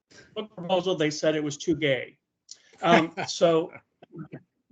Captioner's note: laughing